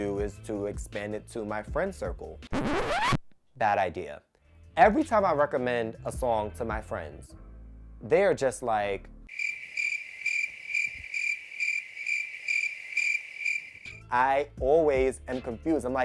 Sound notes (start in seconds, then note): 2.5 record scratch; 9.3 crickets